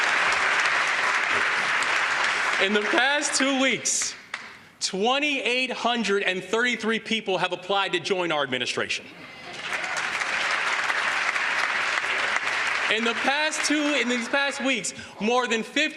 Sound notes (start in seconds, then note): 3.7 applause